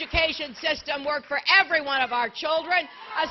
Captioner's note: applause